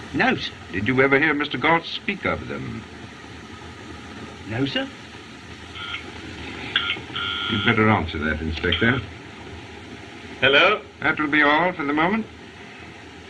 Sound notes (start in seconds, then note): 6.6 phone Buzzing